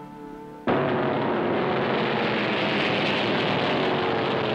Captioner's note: engines rumbling